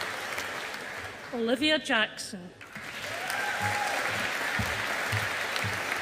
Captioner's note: audience applauding